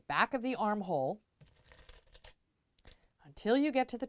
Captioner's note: pin Sounds